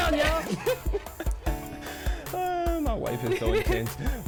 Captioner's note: continues laughing